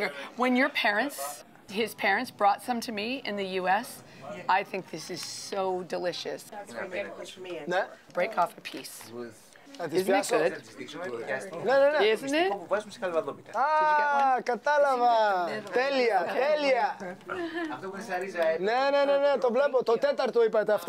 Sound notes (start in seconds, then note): 6.2 speaking Greek; 9.7 speaking Greek; 12.4 conversing in Greek